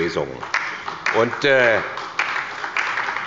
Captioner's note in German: Beifall bei der SPD